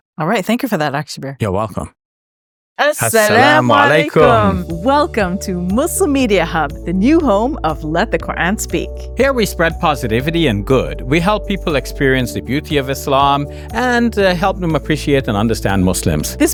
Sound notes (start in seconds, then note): 2.8 speaks in Arabic